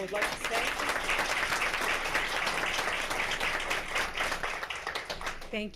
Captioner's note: crowd applauding